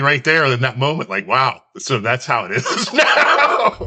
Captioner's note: laughs